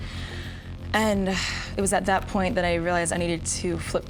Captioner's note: exhales sharply